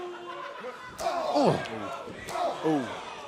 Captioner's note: crowd cheering